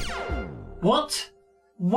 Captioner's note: TV off effect